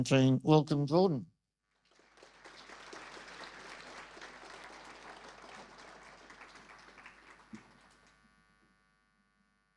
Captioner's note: audience applause